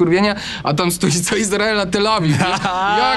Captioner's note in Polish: śmiech